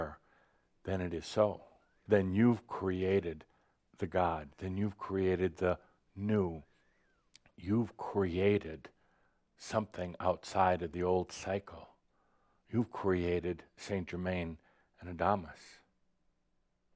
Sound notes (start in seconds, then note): none